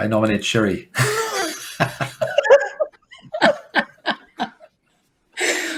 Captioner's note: everybody laughing